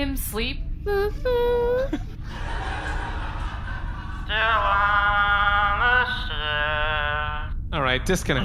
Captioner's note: singsong